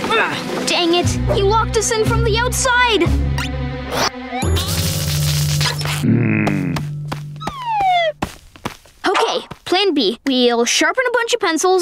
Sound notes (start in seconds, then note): 5.9 groaning